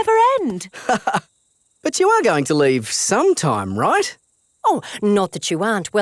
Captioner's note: laughs